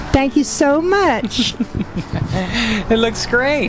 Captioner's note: laughing